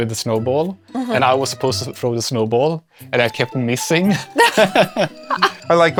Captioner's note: laughs